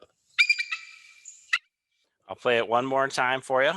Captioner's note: bird squeaking